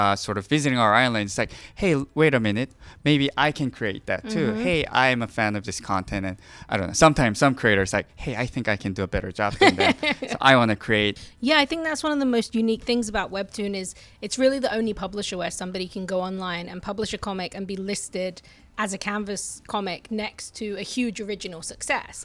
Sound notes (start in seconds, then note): 9.6 laughing